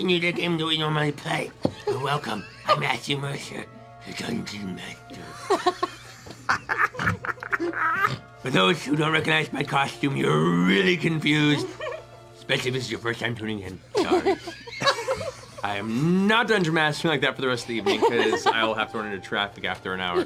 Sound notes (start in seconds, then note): 5.2 laughter; 14.2 normal voice